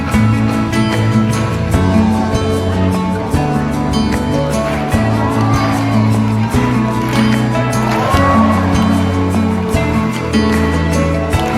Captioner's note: applause